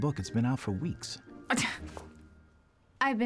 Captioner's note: scoffs